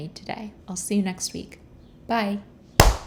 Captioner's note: clap